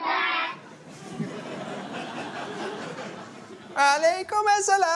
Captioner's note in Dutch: Gelach